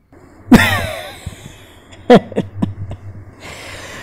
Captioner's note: Laughing